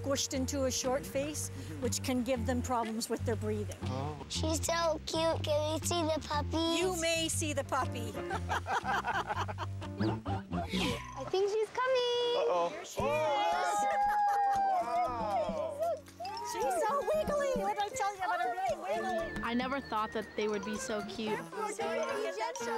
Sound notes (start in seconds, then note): 8.1 laughing; 15.4 mixed cooing, cheering